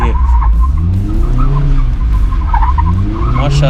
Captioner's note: car drifting sound